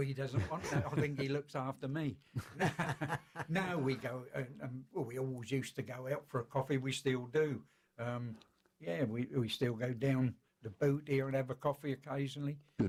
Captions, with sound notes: Nooo.....I think he looks after me! (Laughter) We always used to go out for a coffee, and we still do. We still go down 'The Boot' here and have a coffee occassionally.